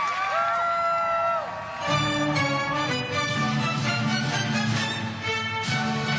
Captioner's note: crowd cheering